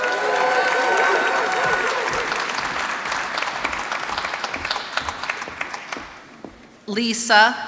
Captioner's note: applause